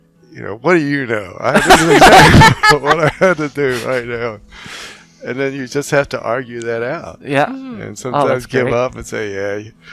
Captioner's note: laughing; laughing, crosstalk